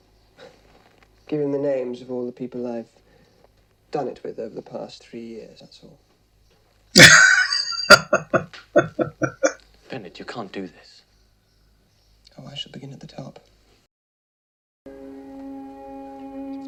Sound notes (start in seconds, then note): 6.9 laughing